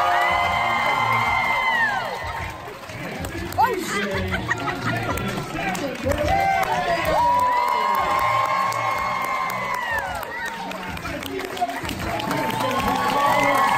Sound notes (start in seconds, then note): 0.0 audience cheering; 7.5 audience cheering